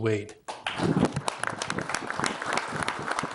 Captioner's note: clapping